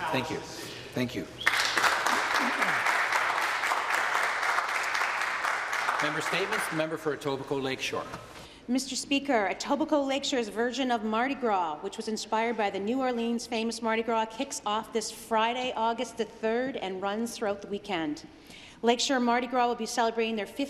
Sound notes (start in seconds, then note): 6.6 some applause